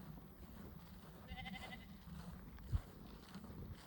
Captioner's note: sheep calling